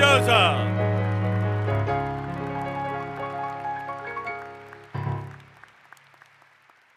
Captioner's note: cheering